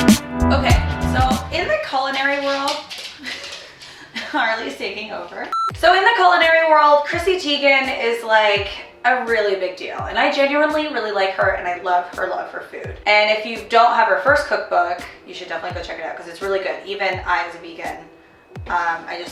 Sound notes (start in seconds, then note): 2.0 dog's nails clicking; 3.1 chuckling; 5.5 beep